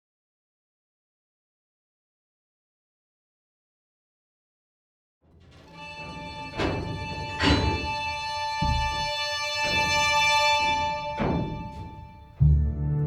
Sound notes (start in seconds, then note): 5.3 latch clanking; 5.6 gentle orchestral music